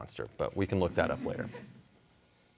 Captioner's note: audience chuckling